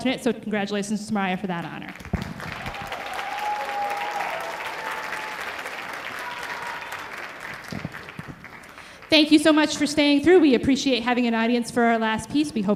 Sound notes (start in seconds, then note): 1.9 audience applauding